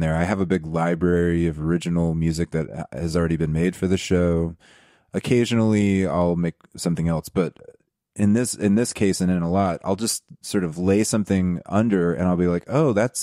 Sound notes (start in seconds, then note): none